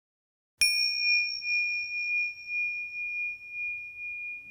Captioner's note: bell chiming